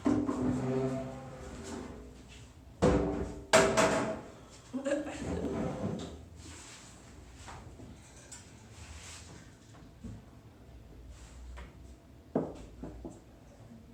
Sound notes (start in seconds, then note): 0.7 chair clatters